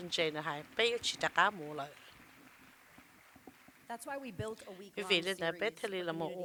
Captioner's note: applause